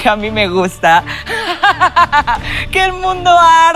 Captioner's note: fierce evil laugh